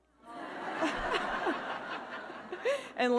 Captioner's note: audience laughing